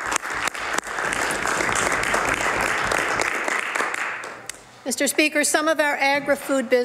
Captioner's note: some Applause